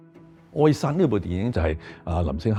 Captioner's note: Cantonese